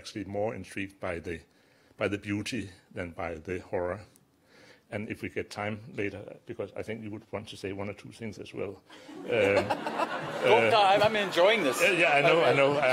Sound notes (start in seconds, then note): 9.0 audience laughter